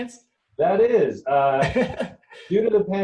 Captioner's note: chuckling